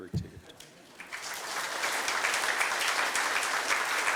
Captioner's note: applause